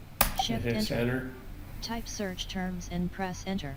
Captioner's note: sound of screenreader